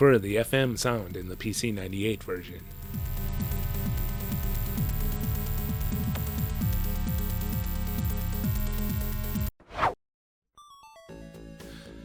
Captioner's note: whoosh